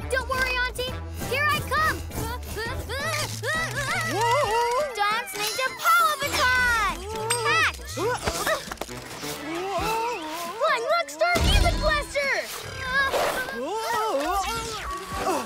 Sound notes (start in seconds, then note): 2.3 unsteady cries; 14.9 unsteady cries